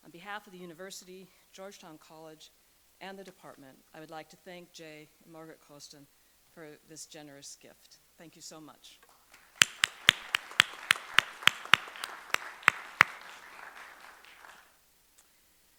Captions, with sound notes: On behalf of the university, Georgetown College, and the department, I would like to thank Jay and Margaret Costan for this generous gift. Thank you so much. (audience applauding)